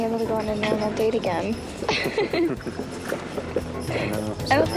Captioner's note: both giggle